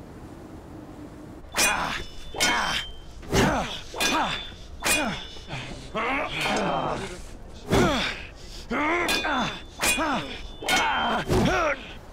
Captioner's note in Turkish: Kılıç Sesleri; Zorlanma sesleri